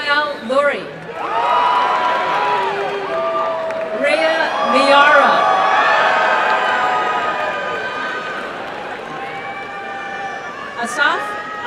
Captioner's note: applause and cheering